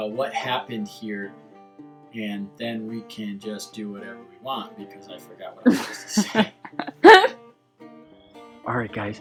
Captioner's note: laughing